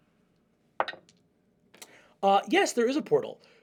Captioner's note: die rolls